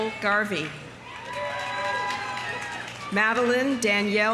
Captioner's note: audience cheering; audience applauding